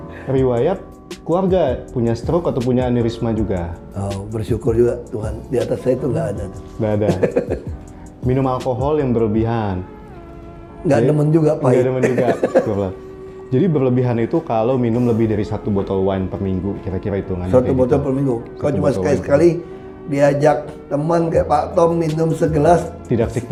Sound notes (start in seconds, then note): 11.7 laughing